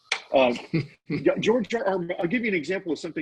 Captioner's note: laughing